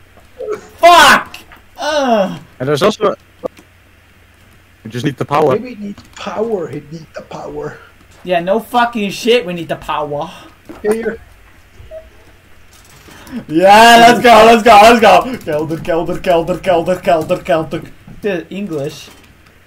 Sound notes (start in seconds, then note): 11.1 laughing